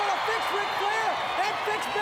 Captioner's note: crowd cheering